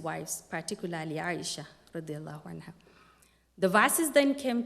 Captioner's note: non-english speech